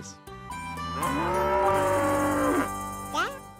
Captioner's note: cow moos